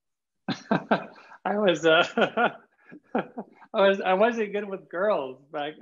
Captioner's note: laughs